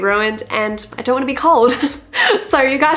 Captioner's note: laughs